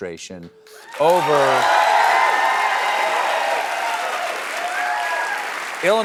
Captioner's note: applause